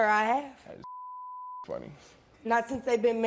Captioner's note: beep